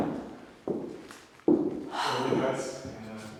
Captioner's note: footsteps banging